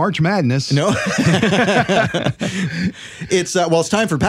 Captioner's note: laughing